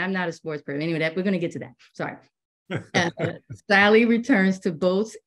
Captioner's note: laughter